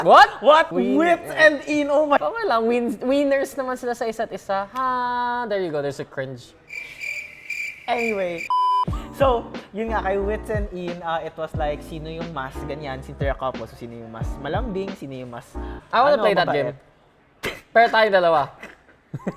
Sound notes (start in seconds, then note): 6.6 cricket sounds; 18.5 giggling; 18.6 laughs